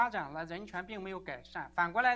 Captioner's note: chinese 00:45:51